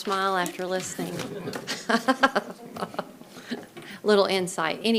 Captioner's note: chuckles